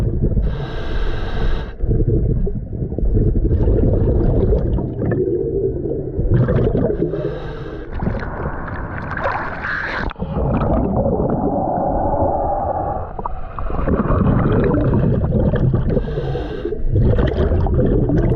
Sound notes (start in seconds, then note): 3.3 underwater sounds continue; 8.0 water splashing; 11.8 underwater sounds continue